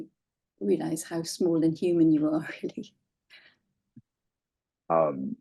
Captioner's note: laughing